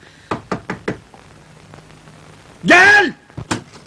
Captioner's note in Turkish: kapi sesi̇